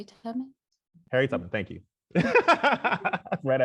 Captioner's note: laughs